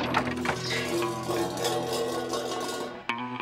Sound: rattling

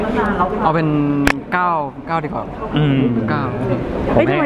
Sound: hums in agreement

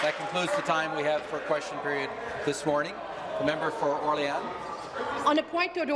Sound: some Applause

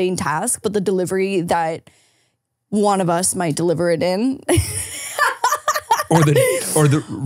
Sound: laughing

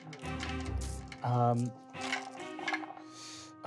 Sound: rolling dice

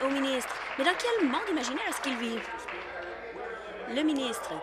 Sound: applause

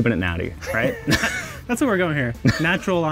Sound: both chuckling

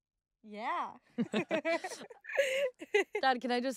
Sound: all chuckling

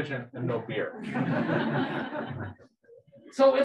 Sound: people laughing

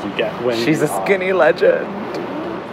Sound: laughs

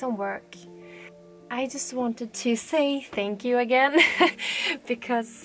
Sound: laughs

